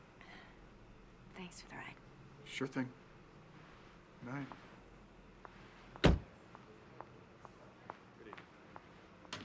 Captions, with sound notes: Thanks for the ride. Sure thing. Good night. (CAR DOOR CLOSES) Good evening, ma'am.